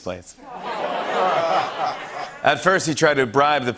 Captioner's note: laughter